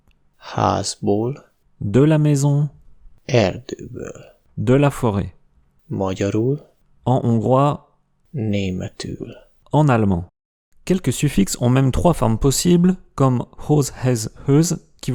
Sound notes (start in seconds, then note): 6.7 in Hungarian; 9.5 in German